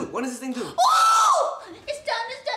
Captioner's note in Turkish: çığlık